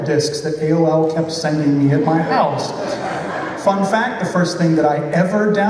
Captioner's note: laughter